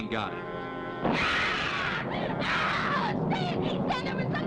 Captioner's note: Susan screaming